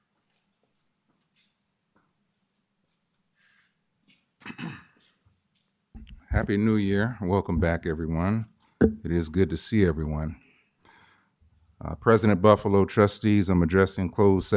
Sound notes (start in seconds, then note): 4.4 clears throat